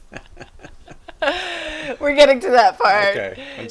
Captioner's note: both chuckle